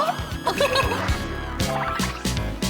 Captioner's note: laugh out loud